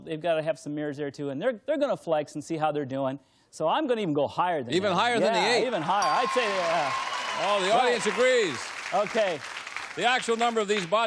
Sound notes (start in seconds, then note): 6.0 cheers, applause